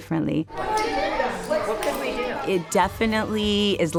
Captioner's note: students chattering